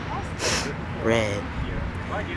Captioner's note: sniffs